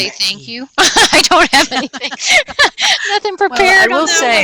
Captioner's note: laughing